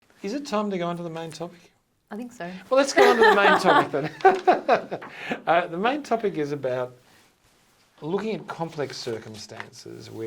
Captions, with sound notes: - Is it time to go onto the main topic? - I think so. (laughs) - Well, let's go onto the main topic then. (laughs) The main topic is about looking at complex circumstances